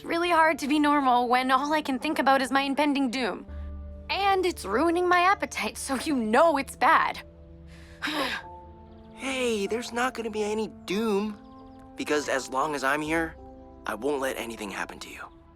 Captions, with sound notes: It’s really hard to be normal when all I can think about is my impending doom! And it’s ruining my appetite, so you know it’s bad. [Jessa sighs] Hey, there’s not going to be any doom. Because as long as I’m here, I won’t let anything happen to you.